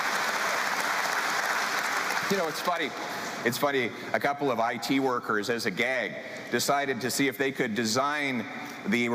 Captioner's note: cheering